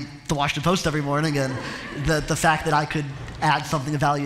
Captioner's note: laughter